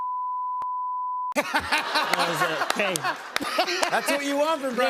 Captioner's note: laughter